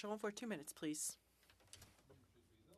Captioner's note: speaking French